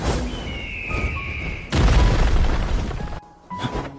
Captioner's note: shouting